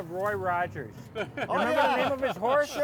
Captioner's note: laughing